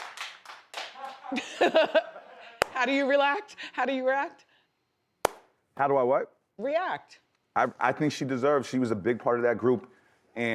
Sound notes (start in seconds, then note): 0.9 Wendy laughs